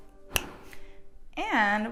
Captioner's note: fingers snap